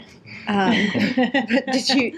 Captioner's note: laughter